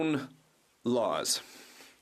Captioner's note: speaking alternate language